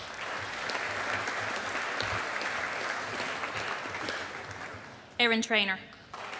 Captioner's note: audience applauding